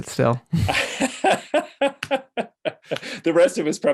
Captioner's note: laughs